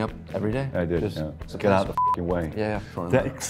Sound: beep

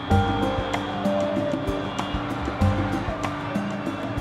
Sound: crowd cheering

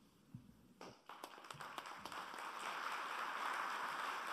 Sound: applauding

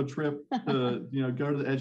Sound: laughing

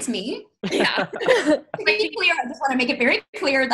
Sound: laughs

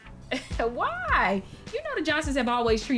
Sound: chuckles

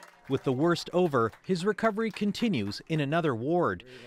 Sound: applause

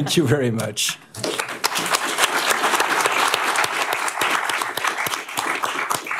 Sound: applause

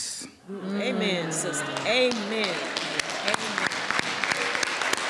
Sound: audience cheering

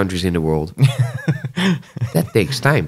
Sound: laughter

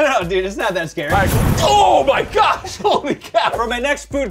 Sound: boom

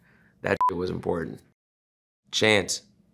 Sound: beep

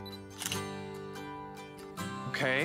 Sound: camera clicks

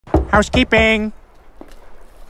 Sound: knocks

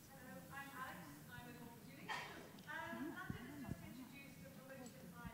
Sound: speaking faintly off mic

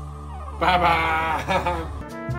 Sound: laugh

